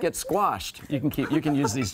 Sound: laughter

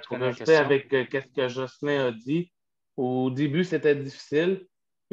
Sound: speaking foreign language

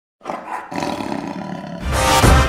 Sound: tiger growls; fast paced music

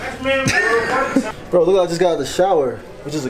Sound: laughs

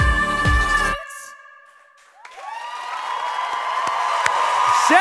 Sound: audience cheers

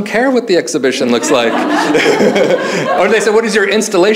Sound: audience laughing; laughs

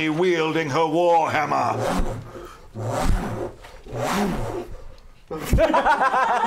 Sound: war hammer swooshing sounds

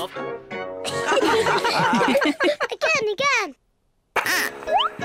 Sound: all giggle

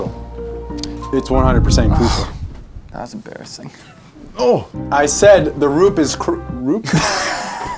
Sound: laughter

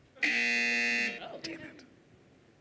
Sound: buzzer

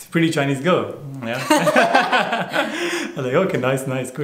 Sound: laughter

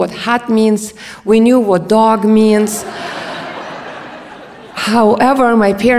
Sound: audience laughs

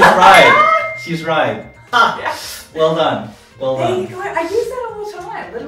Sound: laughs

